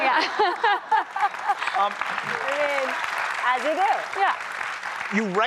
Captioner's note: laughter